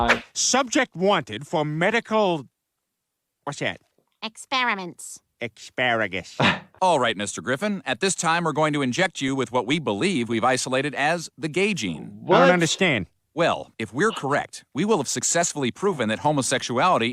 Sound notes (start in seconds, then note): 6.4 laughs